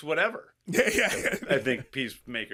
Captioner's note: laughs